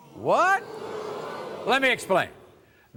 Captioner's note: audience booing